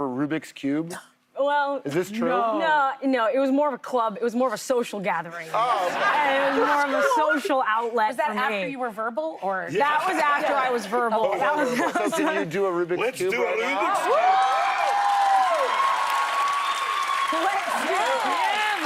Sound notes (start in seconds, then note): 11.3 laughter; 18.5 cheers and applause